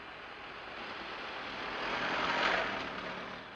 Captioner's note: none